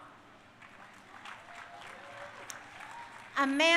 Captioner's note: crowd cheering